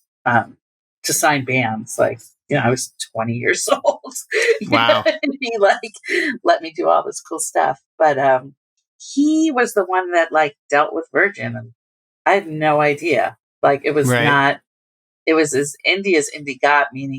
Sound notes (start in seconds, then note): 4.3 laughter